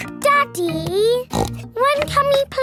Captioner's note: snorts